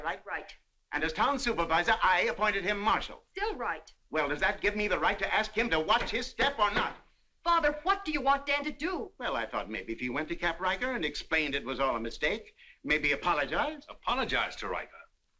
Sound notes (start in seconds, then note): none